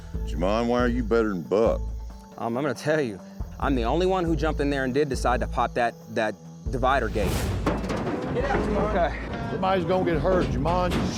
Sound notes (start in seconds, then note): 7.2 clattering sounds